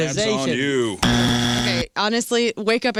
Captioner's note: buzzer